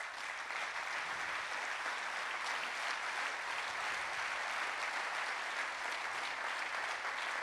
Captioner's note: applause